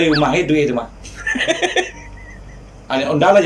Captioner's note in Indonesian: tertawa